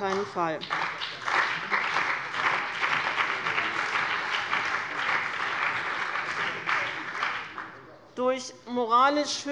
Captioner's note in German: Beifall bei dem BÜNDNIS 90/DIE GRÜNEN und der CDU